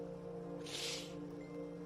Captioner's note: sniffles